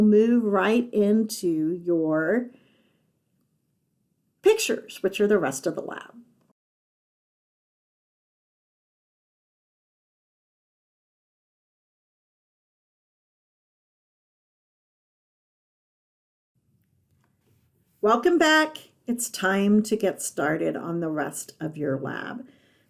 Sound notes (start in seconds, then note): 6.3 silent